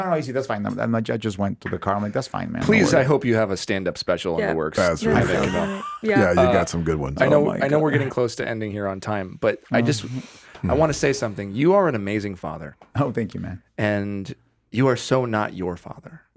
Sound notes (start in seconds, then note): 4.7 Jaime laughing drowns out Jamey